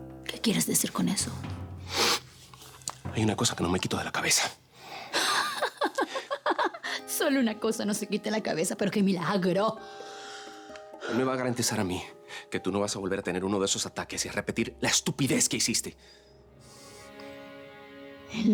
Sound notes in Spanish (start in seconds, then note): 8.0 Ella ríe